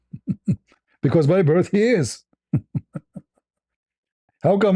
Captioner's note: ketawa